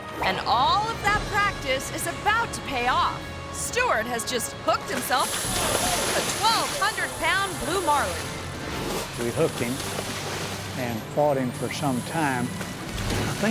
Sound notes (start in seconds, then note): 5.1 line zips; 5.4 fishermen yell